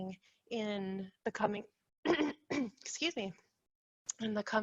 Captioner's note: clears throat